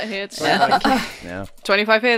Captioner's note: laughter